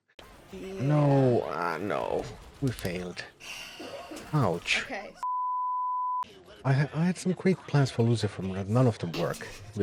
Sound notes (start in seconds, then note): 3.4 sighs